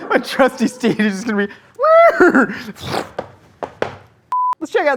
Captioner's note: whinnies